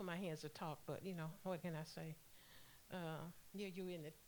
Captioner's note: none